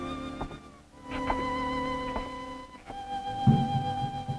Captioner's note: soft footsteps; drum beating